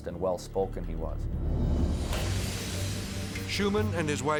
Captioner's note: edgy dramatic whoosh